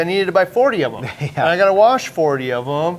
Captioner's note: chuckling